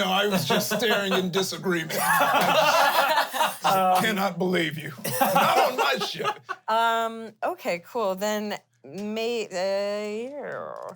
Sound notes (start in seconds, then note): 1.9 everyone laughs